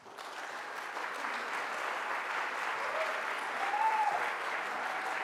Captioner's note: audience applauds